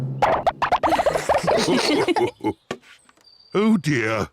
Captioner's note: all laugh